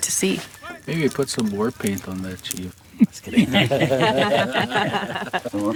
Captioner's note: laughs